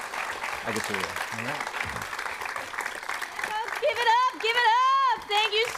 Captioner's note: applause